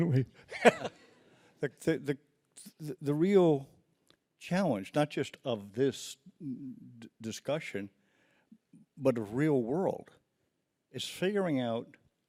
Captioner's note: laughs